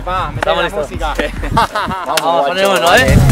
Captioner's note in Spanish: Risas